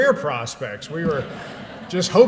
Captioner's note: laughter